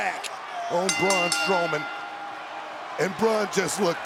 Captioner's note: bell rings